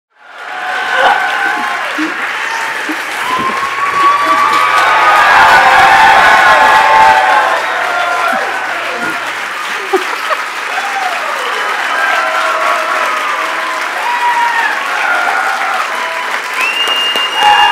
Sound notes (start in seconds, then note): 1.3 cheers and applause; 9.3 laughs; 15.1 cheers and applause continue